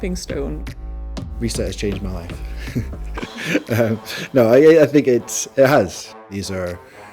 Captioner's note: laughs